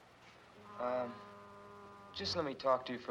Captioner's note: distant foghorn blows